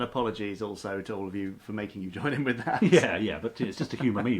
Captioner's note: laughs